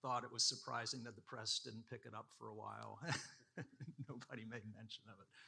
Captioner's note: laughs